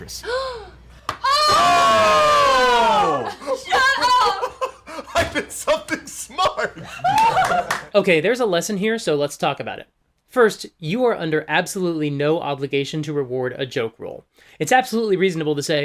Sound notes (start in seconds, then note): 3.1 laughs; 7.1 all laugh